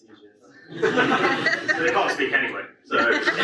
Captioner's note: audience laughs